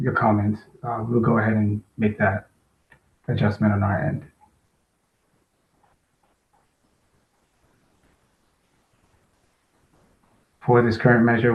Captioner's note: pause